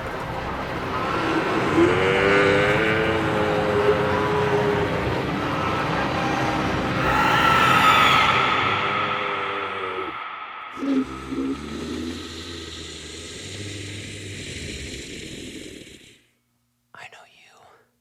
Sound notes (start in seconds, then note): 1.6 demonic voice growling